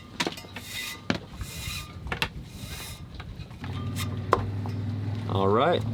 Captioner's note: rope gliding against metal; rope gliding against metal